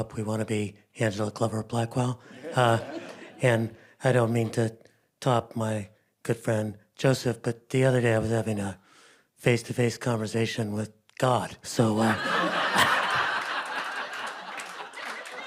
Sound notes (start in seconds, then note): 12.0 group laughing